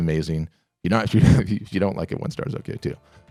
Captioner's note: laughing